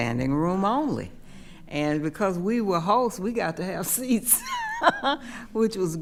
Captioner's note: laughs